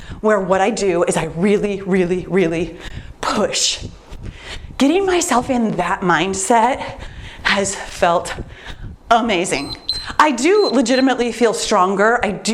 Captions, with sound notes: where what I do is I really, really, really push. Getting myself in that mindset has felt amazing. (timer beeps) I do legitimately feel stronger.